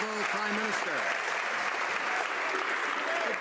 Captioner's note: some Applause